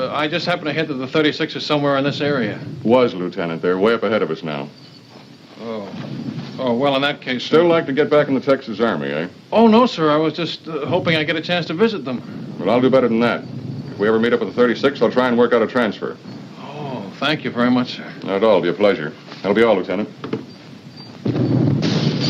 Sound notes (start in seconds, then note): 18.8 explosions in distance, chandelier jingles